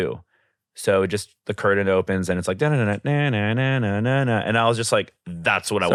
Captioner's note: vocalizes